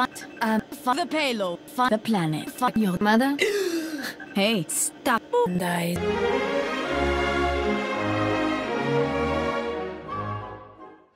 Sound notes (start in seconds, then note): 3.4 gasp